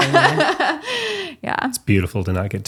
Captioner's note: laughing